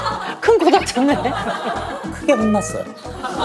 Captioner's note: hahaha